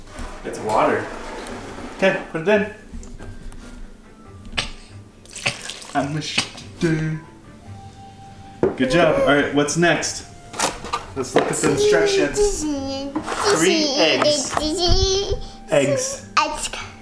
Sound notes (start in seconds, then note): 5.7 mumbles